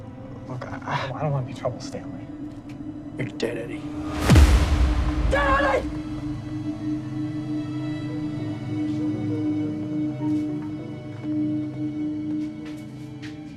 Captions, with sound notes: - Look, I don't want any trouble, Stanley. - You're dead, Eddie. (punch thuds) - You're dead, Eddie! (somber music)